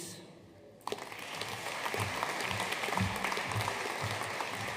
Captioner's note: audience applauding